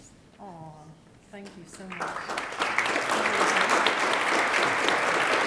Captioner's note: attendees applaud